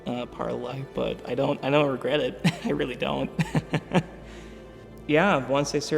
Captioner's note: laughs